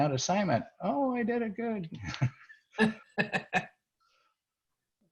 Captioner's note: laughs